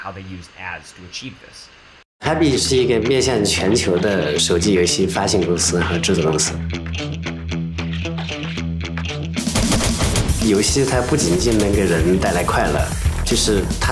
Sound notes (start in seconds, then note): 2.2 non-english speech